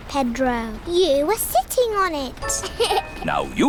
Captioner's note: laughs